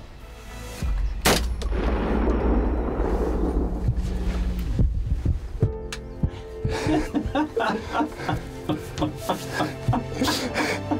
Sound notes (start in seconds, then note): 1.2 gunshot; 5.6 happy music; 6.6 laugh